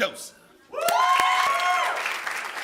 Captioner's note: applause